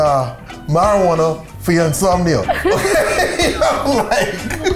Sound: laughs

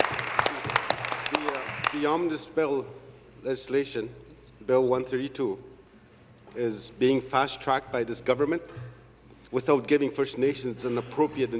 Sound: applause

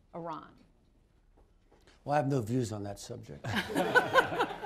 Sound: laughter

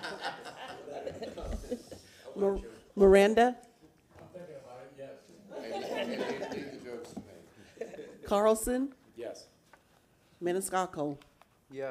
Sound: laughter

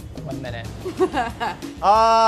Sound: laughs

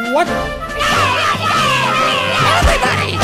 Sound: Pelo screaming

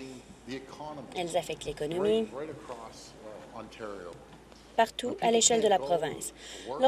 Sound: none

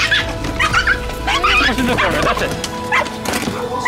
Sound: squeals

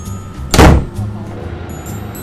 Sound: loud Door again

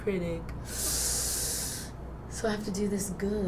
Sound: sucks air through teeth

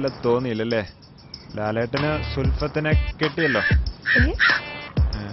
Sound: crow sound-sarcasm

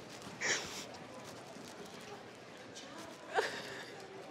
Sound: crying

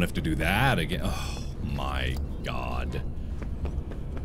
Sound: sigh

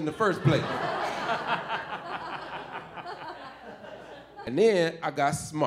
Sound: audience laughing

